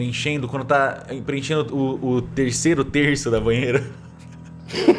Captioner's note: laughter